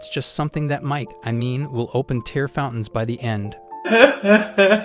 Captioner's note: crying